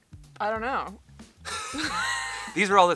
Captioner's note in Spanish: riendo